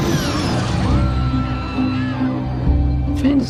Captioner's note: pessoas gritando